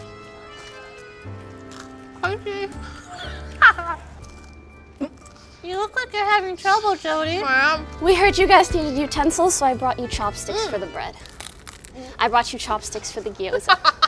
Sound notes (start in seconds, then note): 0.3 romantic peaceful music; 2.3 laughing; 13.2 laughing